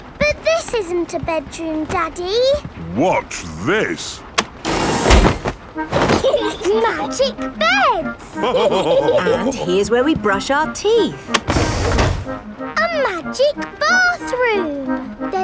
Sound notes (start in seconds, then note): 6.1 laughing; 8.3 all laughing